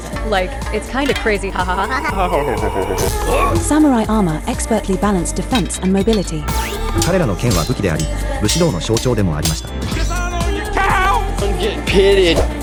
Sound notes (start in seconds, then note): 1.4 grunt!